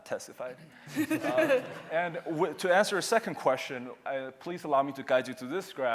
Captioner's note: laughter